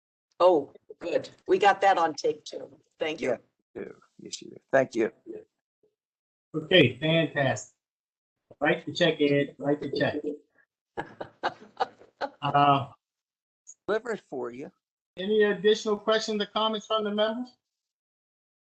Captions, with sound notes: - We got that on tape, too. Thank you. - Thank you. - Okay. Fantastic. Write the check [LAUGHTER]. - For you. - Any additional questions or comments from the members?